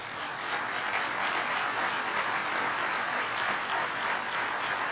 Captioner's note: clapping